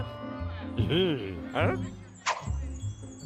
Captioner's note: bell rings; chuckles